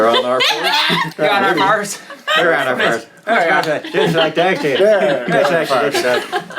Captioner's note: speaking gibberish